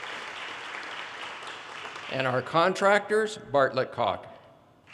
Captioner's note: audience applause